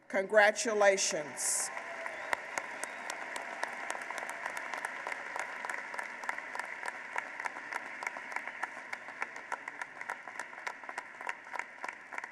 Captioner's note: applause